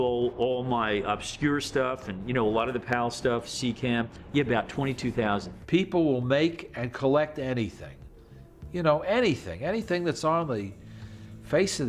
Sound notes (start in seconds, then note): none